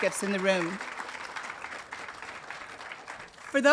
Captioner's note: audience applauding